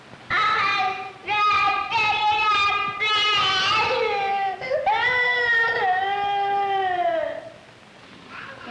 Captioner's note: crying